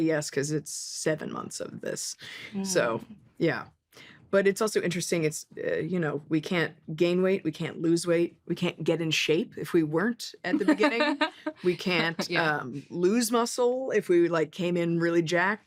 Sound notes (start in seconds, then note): 10.6 laughs